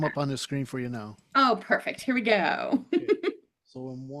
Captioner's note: chuckles